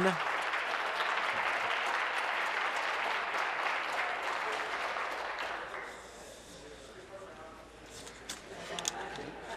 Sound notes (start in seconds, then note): 2.4 voice trailing; 3.2 applause